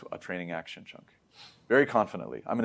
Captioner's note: sniffs